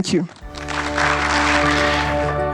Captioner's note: adience applause; upbeat music